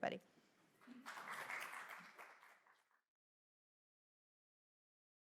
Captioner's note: applause